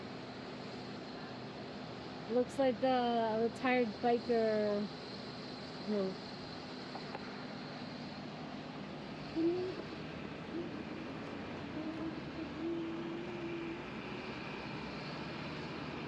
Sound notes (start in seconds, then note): 1.1 airplane engine roaring; 5.3 humming